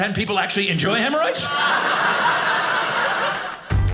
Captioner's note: audience laughing